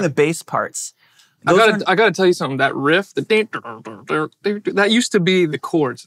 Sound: mimics bass

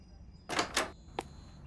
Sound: birds; door

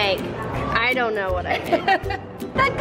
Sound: laughs

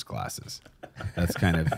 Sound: laughs

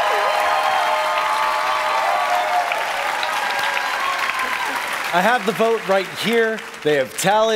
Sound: cheering; applause

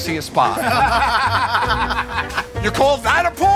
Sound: laughter

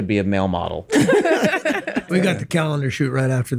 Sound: all laugh

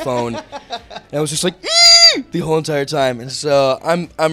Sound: squealing

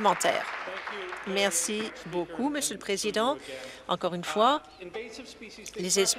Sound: applause

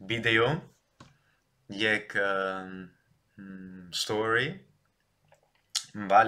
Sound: in English

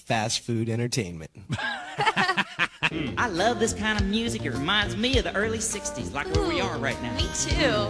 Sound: laughter

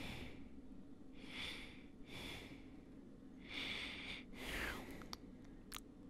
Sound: heavy breathing

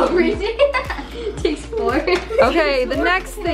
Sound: laughing

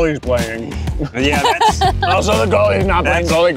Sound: laughter

